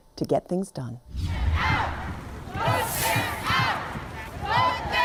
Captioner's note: students chanting